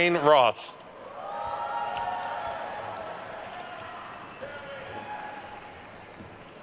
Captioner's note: attendees cheering and applauding